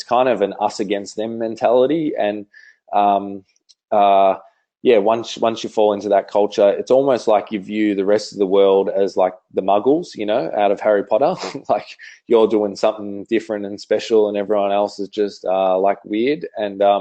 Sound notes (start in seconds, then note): 11.4 laughs